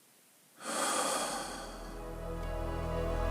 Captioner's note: deep exhale